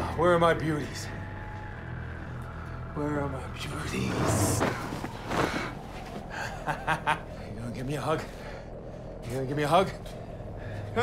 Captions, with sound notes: Where are my beauties? Where are my beauties? [LAUGHS] You gonna give me a hug? You gonna give me a hug?